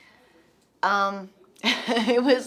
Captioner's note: Sarah laughs